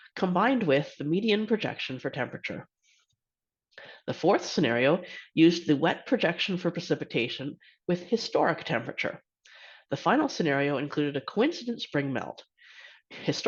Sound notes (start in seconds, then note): 2.7 silence